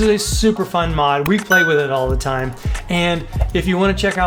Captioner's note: bell dings